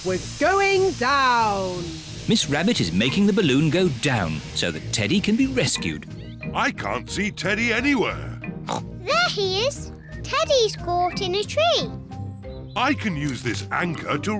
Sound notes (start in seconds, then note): 8.6 oinks